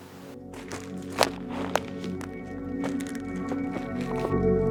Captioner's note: loud rustling; gentle ethereal music